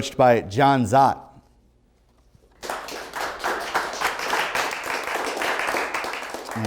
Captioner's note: applause